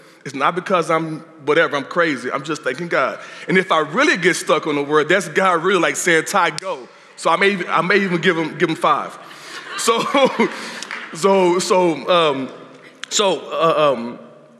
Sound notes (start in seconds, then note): 9.3 laughter; 10.6 clapping